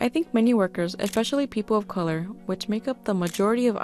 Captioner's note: click!; click!